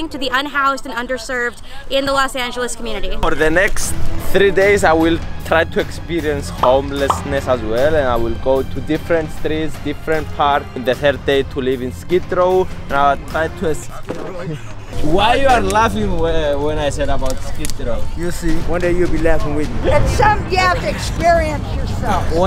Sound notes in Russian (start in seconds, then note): 13.9 кто-то смеется